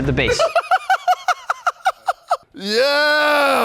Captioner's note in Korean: 웃음